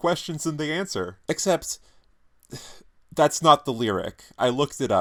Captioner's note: sighs